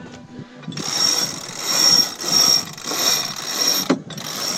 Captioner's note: winch whirring